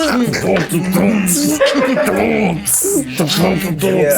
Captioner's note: beatboxing; people laughing